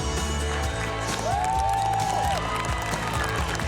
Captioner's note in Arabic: هتاف